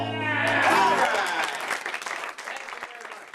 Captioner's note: audience applauding